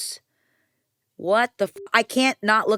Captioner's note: beep